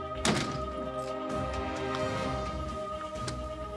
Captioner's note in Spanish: Portazo